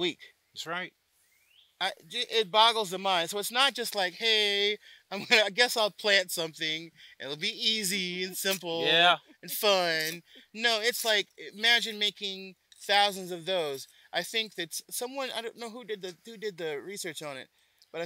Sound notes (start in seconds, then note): 5.1 laughs